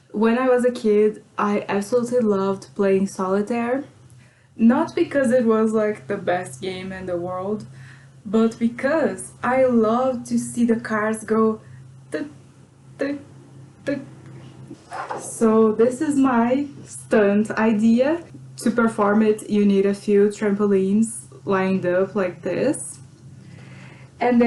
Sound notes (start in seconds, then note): none